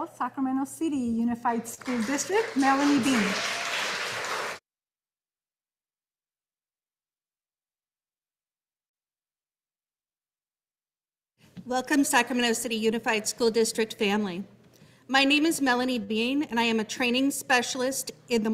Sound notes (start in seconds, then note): 1.7 audience applauding